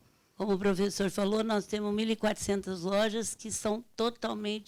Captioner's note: speaking Portuguese